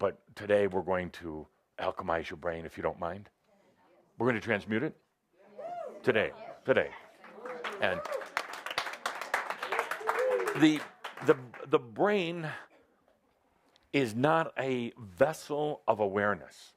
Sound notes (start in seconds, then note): 7.2 audience applause